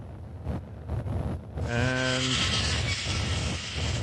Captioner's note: sounds of scraping metal on metal